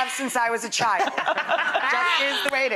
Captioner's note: laughter